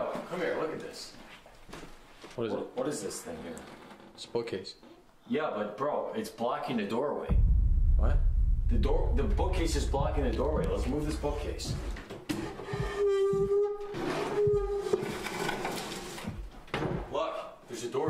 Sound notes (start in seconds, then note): 12.4 wood creaking